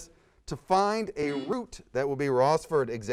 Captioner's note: buzzer sounds